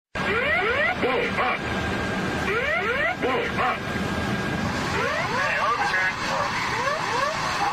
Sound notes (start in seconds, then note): 0.2 sound of GWPS Pull up warning untill impact